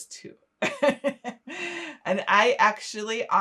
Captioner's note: laughing